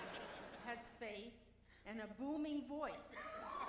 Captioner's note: cheers and applause